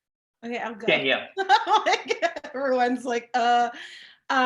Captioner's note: laughing